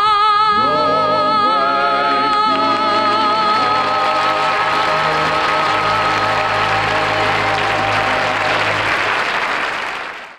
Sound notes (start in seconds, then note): 3.7 audience applauds